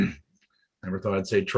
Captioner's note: coughs